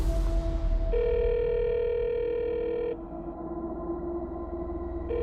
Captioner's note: cellphone ringing